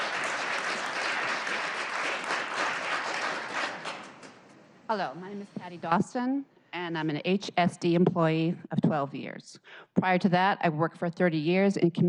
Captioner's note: applause